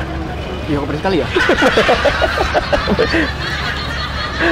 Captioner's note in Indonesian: ketawa